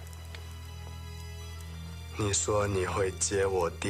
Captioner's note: rain pattering